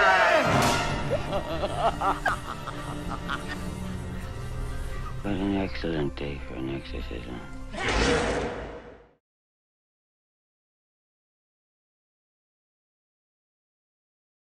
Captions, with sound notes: [creeping laughing] - What an excellent day for an exorcism.